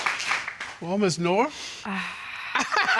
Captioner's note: sighs; chuckles; laughs